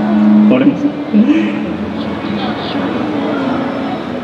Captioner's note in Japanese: 深呼吸